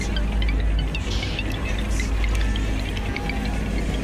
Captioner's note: male voice yelling